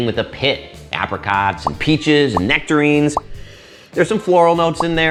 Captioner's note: sniffing